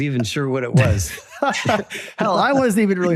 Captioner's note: both laugh